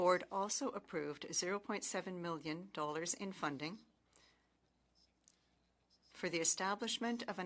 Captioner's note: speaking French